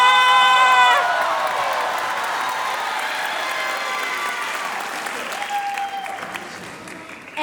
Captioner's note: applause; cheering